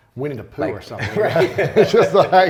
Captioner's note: laughter